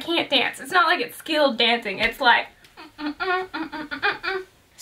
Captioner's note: hums a tune